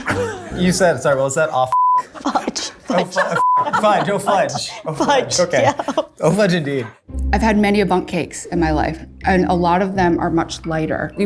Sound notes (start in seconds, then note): 2.0 laughs; 5.1 laughter continues